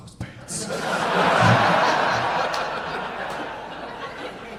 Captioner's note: audience laughing